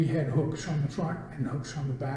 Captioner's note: none